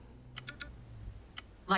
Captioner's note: ticking sounds